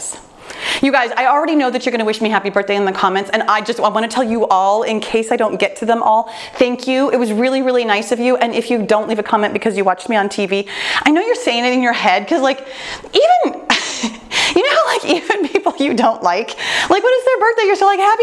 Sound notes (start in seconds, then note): 13.6 laughs